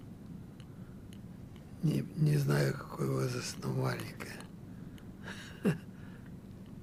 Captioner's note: laughing